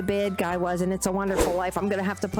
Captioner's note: whoosh